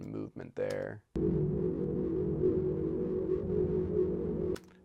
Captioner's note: portal hums